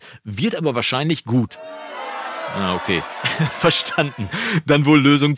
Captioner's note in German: Jubel